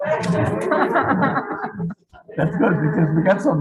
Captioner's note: group laughing